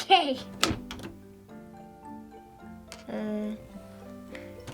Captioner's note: loud clack